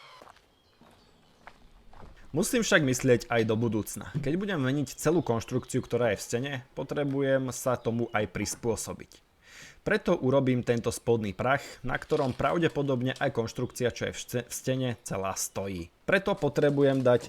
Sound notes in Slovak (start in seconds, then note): none